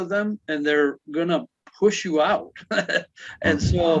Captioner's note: laughs